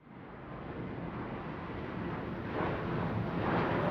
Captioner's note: windy outdoors